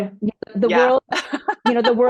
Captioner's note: laughs